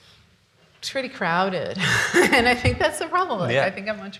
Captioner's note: laughs